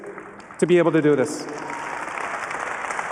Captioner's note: applause